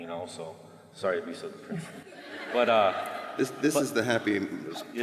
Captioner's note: laughter